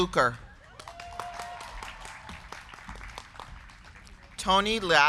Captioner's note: crowd cheering; crowd clapping